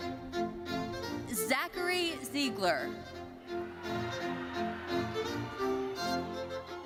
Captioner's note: bright thoughtful music continues; audience cheering